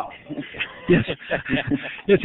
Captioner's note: laughter